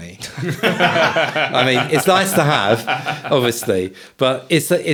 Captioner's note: laughing